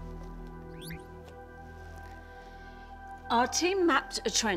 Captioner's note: soft celestial music continues; laptop whirrs